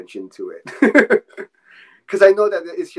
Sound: laughing

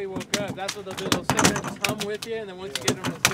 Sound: fish thrashing

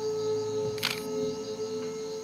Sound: camera clicks

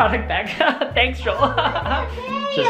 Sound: fake laughs

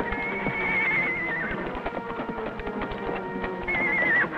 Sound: horse neighs

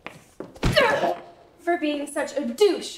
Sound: foot thump

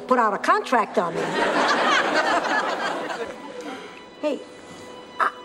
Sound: audience laughter

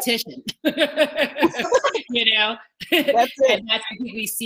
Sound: all laughing

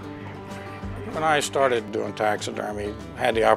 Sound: sound of birds and ducks

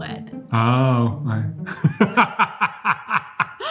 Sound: laughing

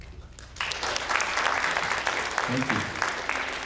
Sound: audience applauding

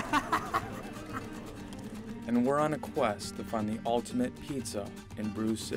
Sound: laughs

